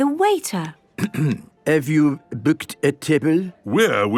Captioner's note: clears throat